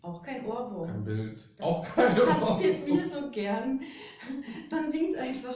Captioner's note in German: lachen